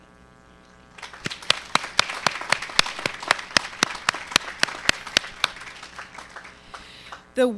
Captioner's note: applause